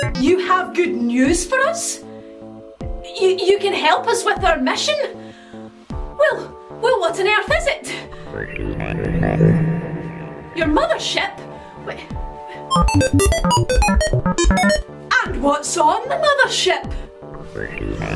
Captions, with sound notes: You have good news for us? You can help us with our mission? Well what on earth is it? Your mothership? (beeping) And what's on the mothership?